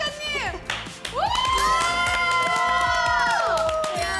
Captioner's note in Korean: 열화와 같은 환영의 박수